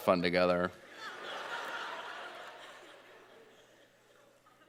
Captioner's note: audience laughing